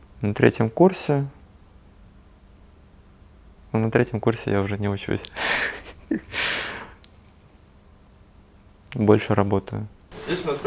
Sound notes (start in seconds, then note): 5.6 laughter